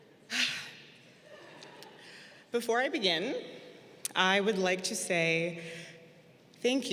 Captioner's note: sighs